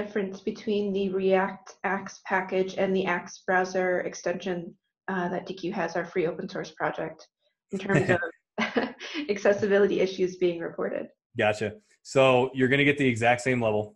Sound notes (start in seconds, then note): 7.8 laughing; 7.8 laughs